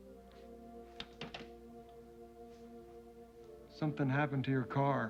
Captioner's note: receiver clacks